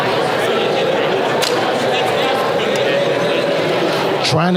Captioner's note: Crowd talking and yelling as David Letterman appears